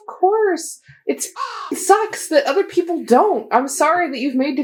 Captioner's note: caw